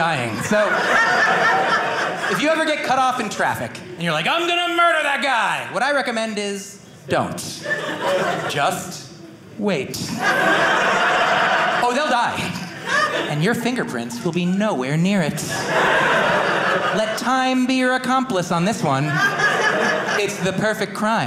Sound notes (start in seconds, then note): 10.0 audience laughing